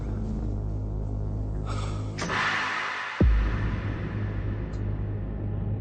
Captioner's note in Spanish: Benjamín exhala